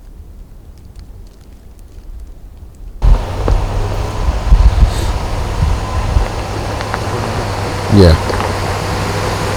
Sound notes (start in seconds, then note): 3.0 engine roaring